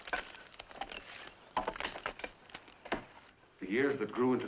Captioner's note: axes chopping